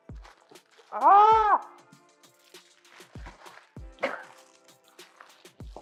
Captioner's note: frustrated exclamation